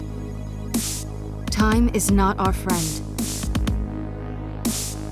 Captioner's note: voiceover